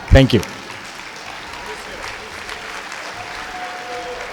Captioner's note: clapping